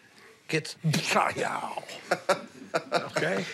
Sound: laughs

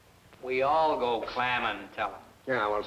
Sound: none

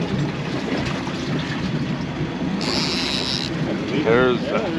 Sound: reel cranking

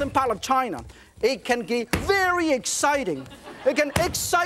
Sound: dough slams on counter; audience laughs

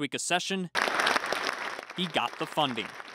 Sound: applause

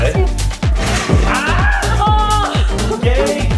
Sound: baby gate crashing

